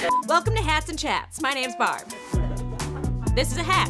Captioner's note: host laughing; crew laughing